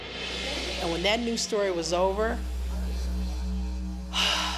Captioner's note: sighs